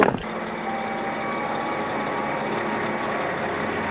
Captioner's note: engine humming